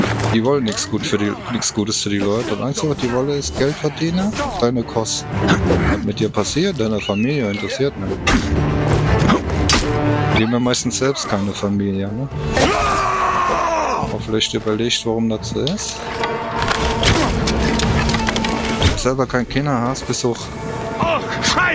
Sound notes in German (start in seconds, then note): 12.4 schreien; 13.4 stöhnen